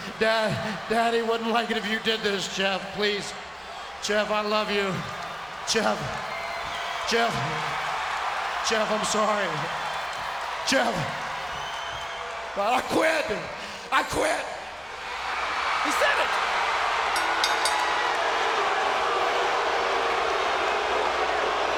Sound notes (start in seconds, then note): 6.8 spectators cheering; 17.2 bell ringing; 18.4 spectators cheering